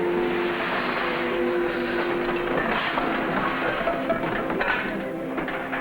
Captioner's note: objects rattling in distance